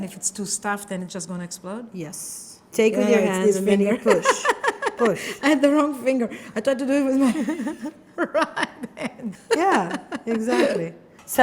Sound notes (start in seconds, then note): 7.0 chef laughing